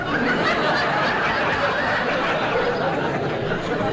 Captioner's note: audience Laughing